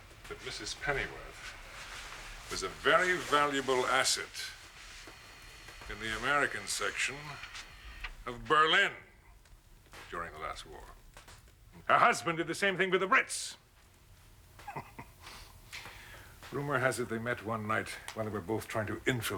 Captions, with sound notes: but Mrs. Pennyworth was a very valuable asset in the American section of Berlin during the last war. Her husband did the same thing with the Brits. ( chuckling ) Rumor has it they met one night when they were both trying to infiltrate